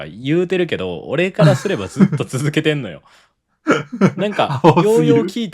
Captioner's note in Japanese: 笑い